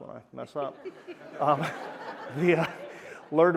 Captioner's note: laughter